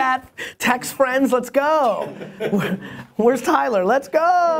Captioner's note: laughing